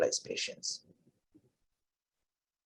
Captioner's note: silence